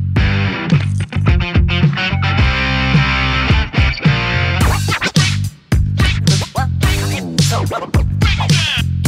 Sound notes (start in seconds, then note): 4.5 record scratching